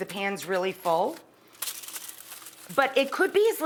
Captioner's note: foil crinkling